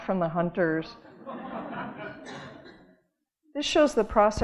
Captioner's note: audience laughing